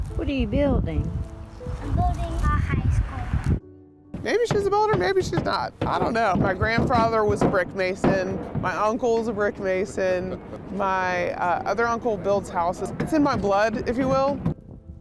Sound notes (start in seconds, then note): 3.3 peaceful music; 4.1 hammers banging